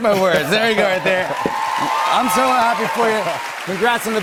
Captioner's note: cheers and applause